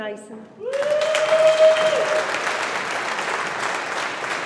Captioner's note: audience applauding